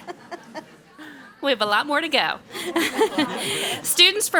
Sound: laughing

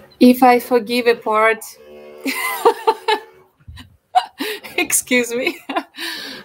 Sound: laughs

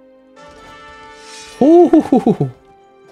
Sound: pleased noise

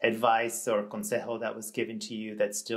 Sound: speaks in Spanish

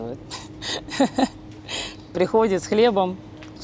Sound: laughs

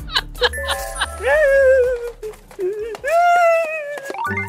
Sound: hehehe

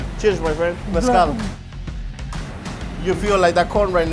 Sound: speaking in foreign language

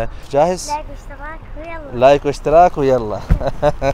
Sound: Arabic

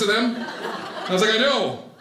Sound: audience laughing

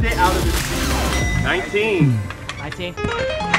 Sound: chime

